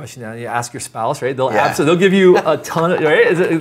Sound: both laugh

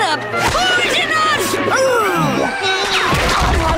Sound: gagging

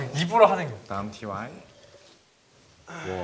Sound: slurping

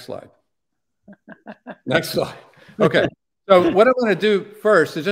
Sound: laughter

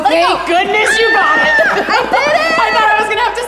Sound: shrieks

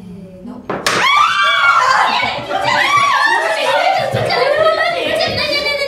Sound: scream

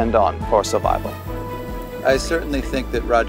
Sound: water bubbling

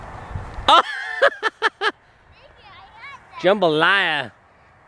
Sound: laughs

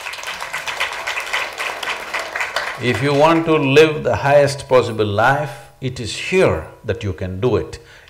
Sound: applause

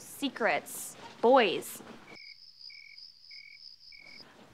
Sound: crickets chirping

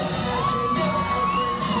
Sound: cheering

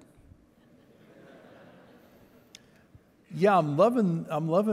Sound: audience laughing

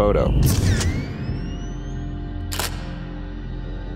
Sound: camera shuttering

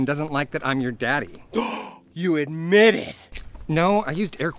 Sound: gasps

